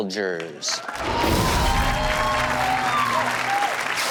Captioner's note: audience cheers